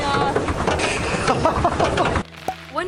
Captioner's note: laughter